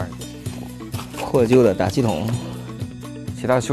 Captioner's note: an old bicycle pump